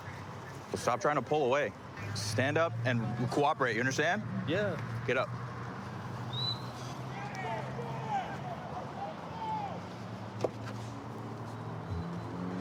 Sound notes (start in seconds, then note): 6.3 whistle; 7.0 indistinct shouting; 9.3 vehicles driving